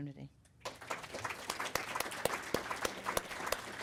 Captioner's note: audience Applause